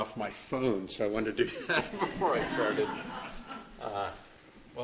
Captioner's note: laughter